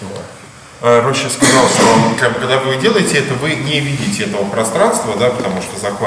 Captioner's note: speaking in a foreign language